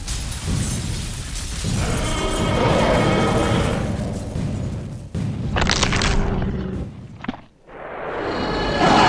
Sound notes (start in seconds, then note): 1.1 stomp; 1.7 roar; 5.3 crunch